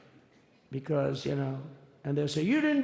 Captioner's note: none